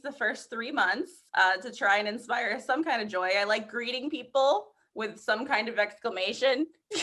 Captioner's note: laughter